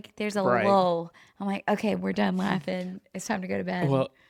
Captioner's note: laughs